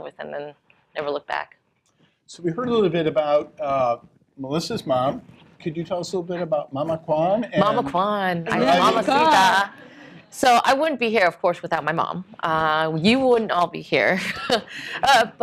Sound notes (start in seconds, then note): 8.4 non-english speaking